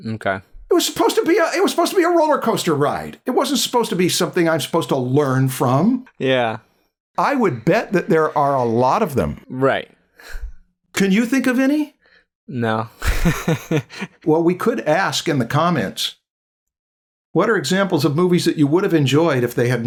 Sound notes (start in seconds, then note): 13.0 chuckles